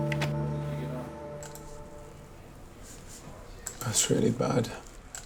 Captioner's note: door latch clicks